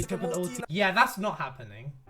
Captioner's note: ring, ring